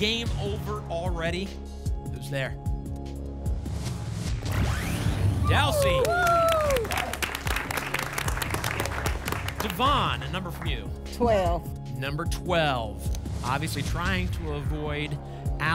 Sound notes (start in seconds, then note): 5.4 applause and cheering